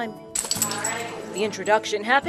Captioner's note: tags jingle